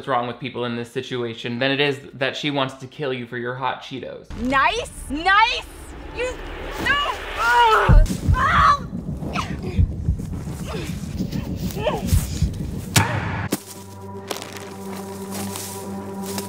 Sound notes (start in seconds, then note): 8.3 shrieking; 12.9 dramatic music